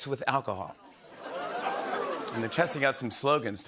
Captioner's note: scattered laughter, scattered cheering